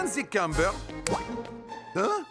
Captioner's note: splash!